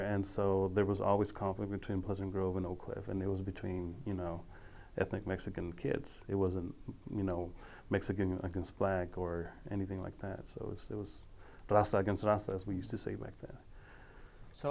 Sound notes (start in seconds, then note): 11.0 speaking foreign language